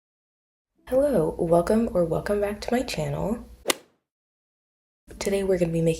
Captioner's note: golf hit sound effect